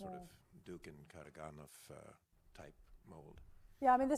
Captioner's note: speaking foreign language